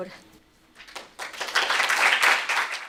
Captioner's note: applause